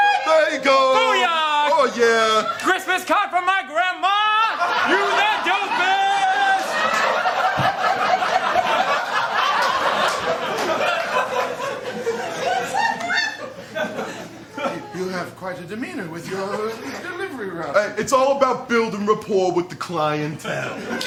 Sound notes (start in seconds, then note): 6.8 laughter